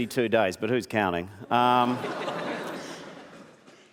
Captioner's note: laughter